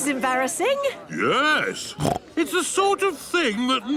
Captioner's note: snorts